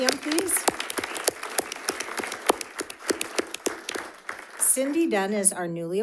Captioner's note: audience applauding